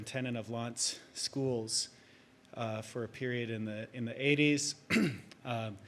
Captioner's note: clears throat